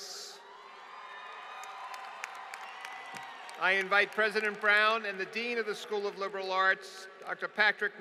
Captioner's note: applause